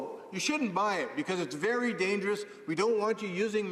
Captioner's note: none